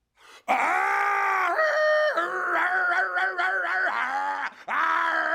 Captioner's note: actor roars and barks